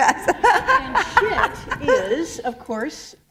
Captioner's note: laughter